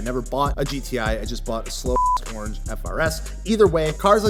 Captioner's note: beep